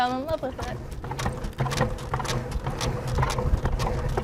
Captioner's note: wheels clacking